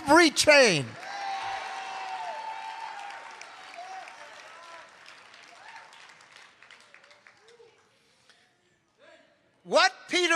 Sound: congregation cheering

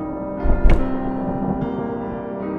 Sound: sobbing

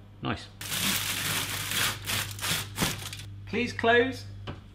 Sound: crinkling

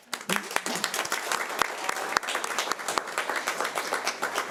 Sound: audience applauding

